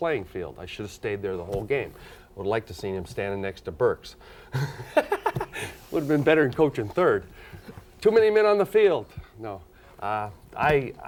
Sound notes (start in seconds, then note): 4.5 laughs